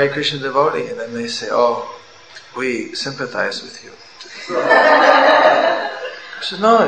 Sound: laughter

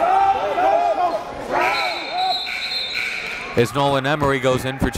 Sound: players yelling; buzzer dings

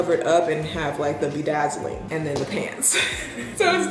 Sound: chuckles

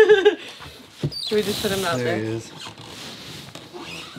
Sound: laughing; shoes squeaking

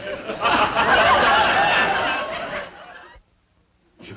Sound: audience laughing

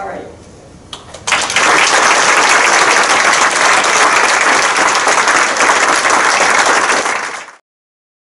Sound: crowd applausing

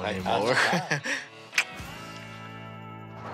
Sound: clicks tongue

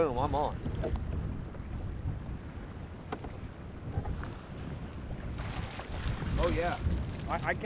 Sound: fish splashing

